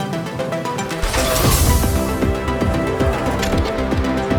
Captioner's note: grunting